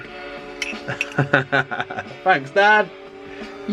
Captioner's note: laughs